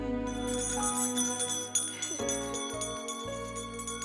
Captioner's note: bell ringing